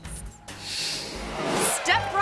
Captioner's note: screen swooshes